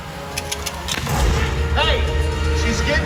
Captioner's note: gunshot firing